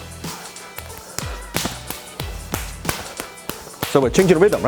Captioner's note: hands slapping in combat